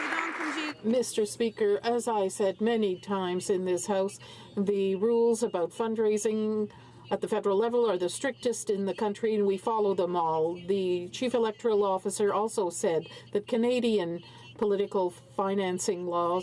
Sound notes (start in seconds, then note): 1.5 some Applause